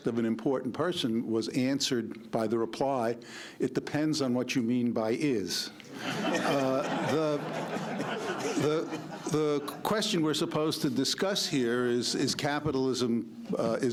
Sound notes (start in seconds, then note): 5.9 laughter